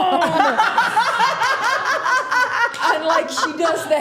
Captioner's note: Steph laughing